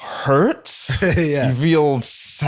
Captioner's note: laughs